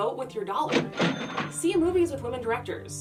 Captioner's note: cash register bell